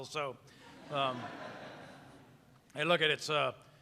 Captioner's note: audience laughing